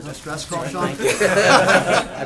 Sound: laughter

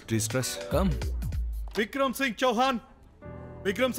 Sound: door opens

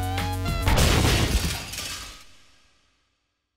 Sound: crash

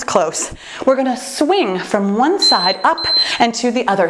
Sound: timer beeping

